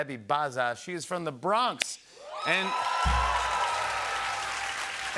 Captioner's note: cheers and applause